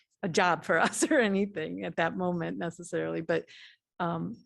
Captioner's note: laughter